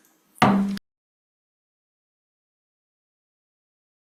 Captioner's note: gavel clanks